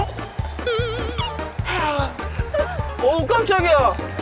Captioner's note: cracking up